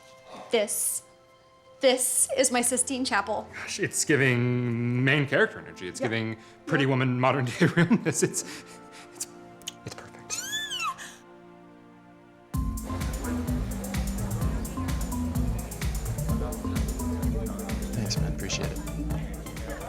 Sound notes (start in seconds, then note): 10.3 squeals; 12.5 dance music playing